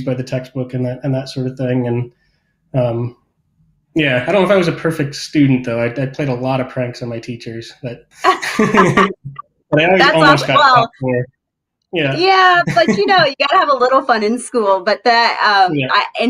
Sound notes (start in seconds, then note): 8.2 chuckles happily